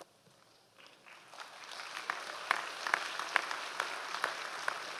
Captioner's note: audience applause